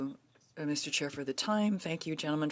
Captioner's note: speaking French